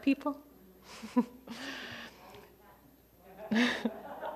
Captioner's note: laughing